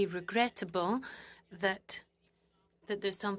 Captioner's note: speaking in French